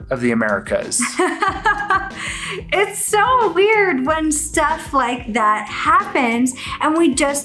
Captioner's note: laughs